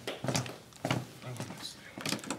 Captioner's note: footsteps approaching